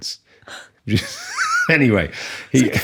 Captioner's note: laughing